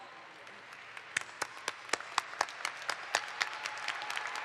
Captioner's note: audience applauds